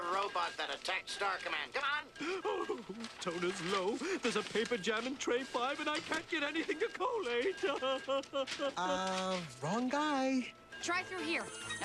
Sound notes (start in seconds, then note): 2.0 sobbing